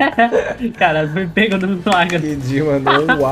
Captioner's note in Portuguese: risos; risos